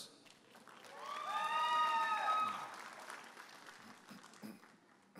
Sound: audience applauding and cheering

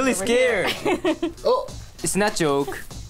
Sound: laughs

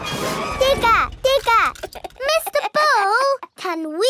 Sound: chuckles

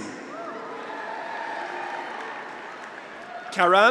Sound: graduates cheer

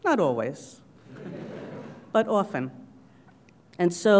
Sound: laugh

